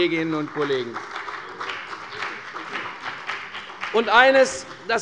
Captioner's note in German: Beifall bei der CDU und dem BÜNDNIS 90/DIE GRÜNEN